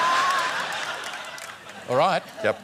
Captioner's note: laughter